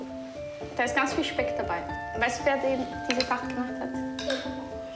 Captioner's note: speaking foreign language